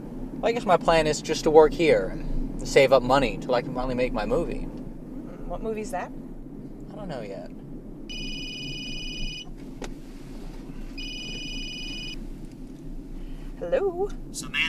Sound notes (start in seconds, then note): 11.0 phone ringing